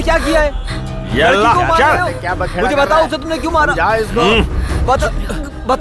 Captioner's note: Speaking in Arabic